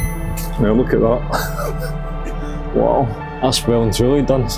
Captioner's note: chuckle